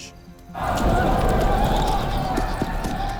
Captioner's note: deep rumble